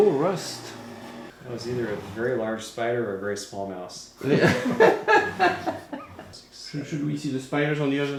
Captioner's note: laughter